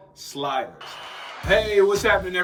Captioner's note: whistle blows